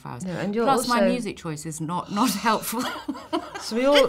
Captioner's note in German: lacht